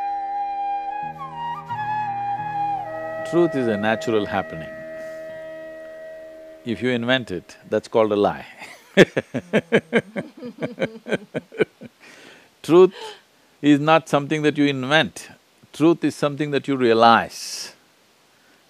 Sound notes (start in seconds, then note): 8.6 both laugh; 11.3 雙方都笑